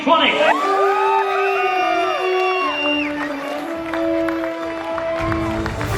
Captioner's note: crowd Cheering